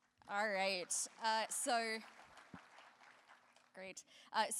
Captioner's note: applause